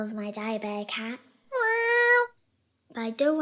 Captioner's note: cat meows